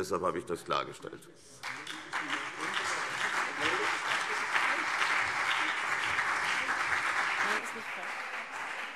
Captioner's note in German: Beifall CDU und BÜNDNIS 90/DIE GRÜNEN